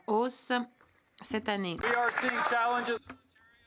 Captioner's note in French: voix de l'interprète